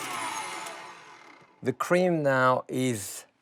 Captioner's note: mixer shuts down